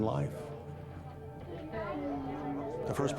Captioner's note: backround video conversations